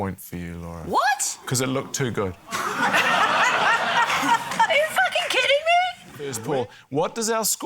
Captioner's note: laughter